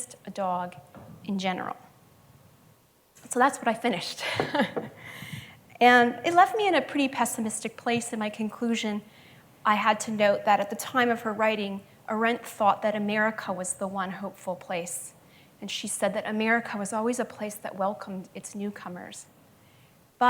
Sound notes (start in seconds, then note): 4.6 laughs